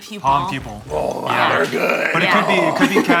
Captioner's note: groans